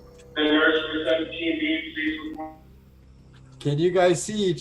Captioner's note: robotic noise